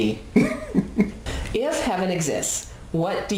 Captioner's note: laughs